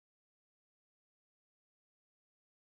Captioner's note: none